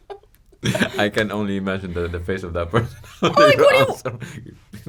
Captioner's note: laughs